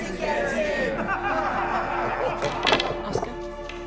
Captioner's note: all laughing